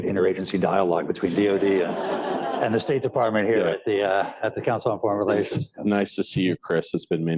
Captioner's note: laughter